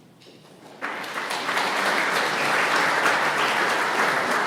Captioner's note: audience clapping